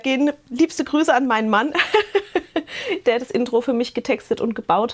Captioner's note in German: gelächter